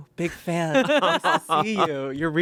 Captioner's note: everyone laughs